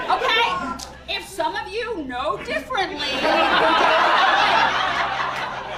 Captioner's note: laughter